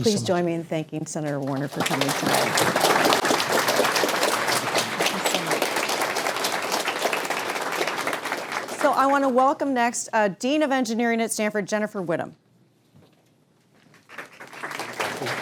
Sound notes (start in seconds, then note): 6.5 applause